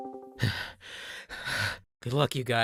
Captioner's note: nervous breathing